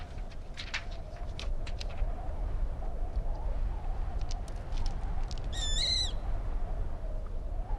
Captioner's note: wind blowing